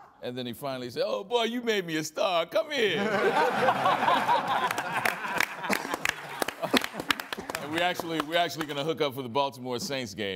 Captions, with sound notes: And then, he finally said, "Oh, boy, you made me a star! Come here!" (ALL LAUGHING) (COUGHING) We're actually gonna hook up for the Baltimore-Saints game